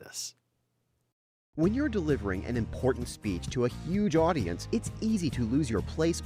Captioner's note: voiceover